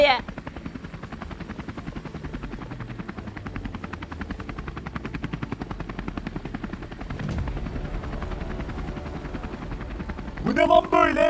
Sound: helicopter voice

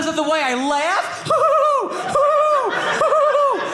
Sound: laughing

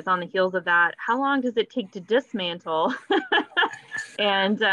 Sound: laughs

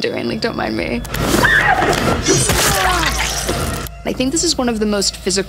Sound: Ziggy screaming

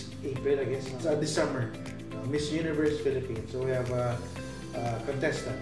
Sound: none

